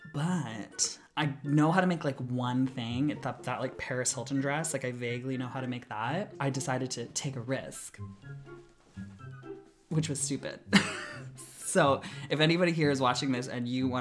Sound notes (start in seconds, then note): 10.6 laughs